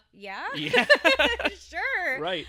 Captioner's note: laughing